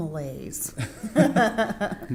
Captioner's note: laughter